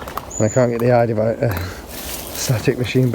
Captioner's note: leaves rustling